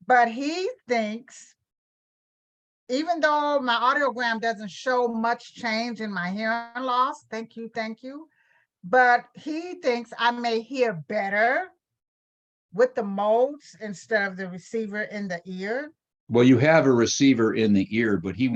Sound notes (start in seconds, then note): none